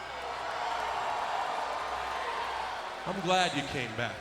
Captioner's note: crowd cheering